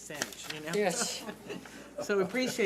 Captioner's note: chuckling